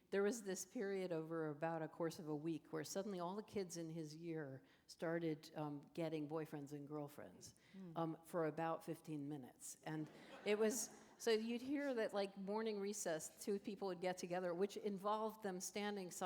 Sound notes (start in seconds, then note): 10.0 laughter